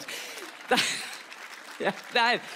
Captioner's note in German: Sie lacht